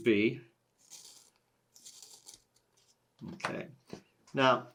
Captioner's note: pencil sharpening sounds